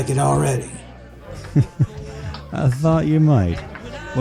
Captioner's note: laughs